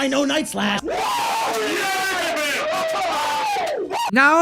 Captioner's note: cheering